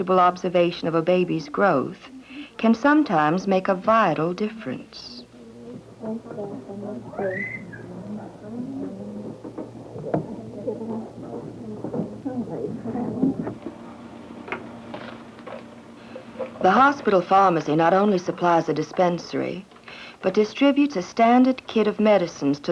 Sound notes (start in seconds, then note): 5.1 indiscriminate chatter; 14.8 paper rustle